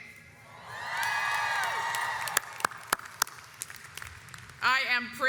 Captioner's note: audience cheers